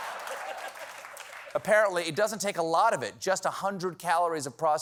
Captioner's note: laughter